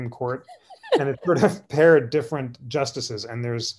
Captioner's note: laughter